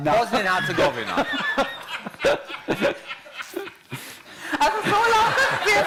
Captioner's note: laughter